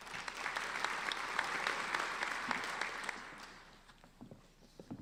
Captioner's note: applauding